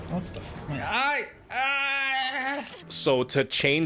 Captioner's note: <i>Otzdarva screams in agony</i>